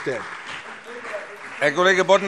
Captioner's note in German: Beifall CDU und BÜNDNIS 90/DIE GRÜNEN